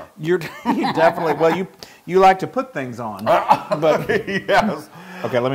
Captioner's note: laugh